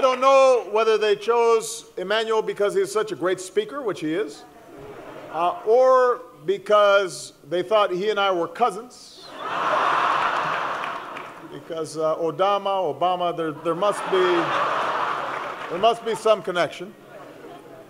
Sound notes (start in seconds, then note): 9.3 laughing; 13.5 laughter